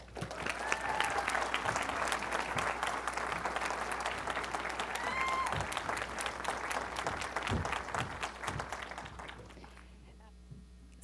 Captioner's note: applause